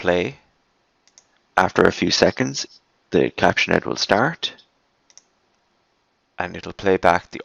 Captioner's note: recording plays